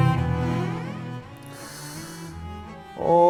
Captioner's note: inhale